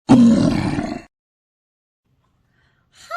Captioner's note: troll Growling